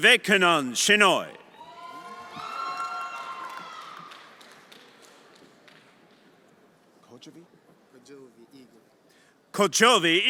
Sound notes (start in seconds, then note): 1.4 everyone applauding and cheering